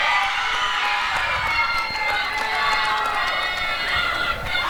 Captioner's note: applause and cheering